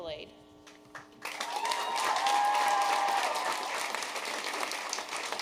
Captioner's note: audience applauding